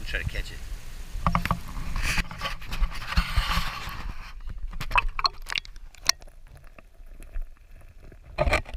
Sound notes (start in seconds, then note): 1.3 camera rustling noises; 4.8 water plops; 7.9 stones rustling